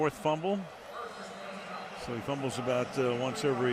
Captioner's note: pa announcement